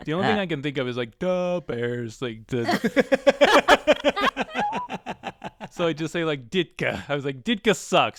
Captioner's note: laughter